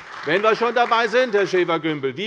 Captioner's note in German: Beifall bei der CDU